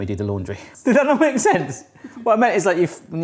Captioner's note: cameraman laughing